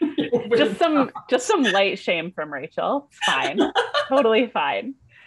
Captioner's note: laughter